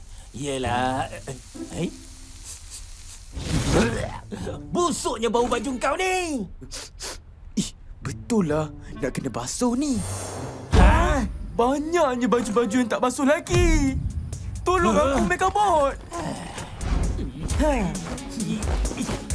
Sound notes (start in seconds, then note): 16.0 sighs; 17.5 both grunt